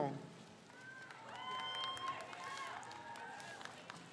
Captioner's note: crowd cheers